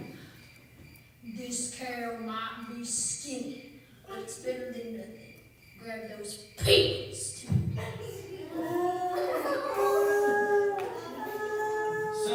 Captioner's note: panicked moos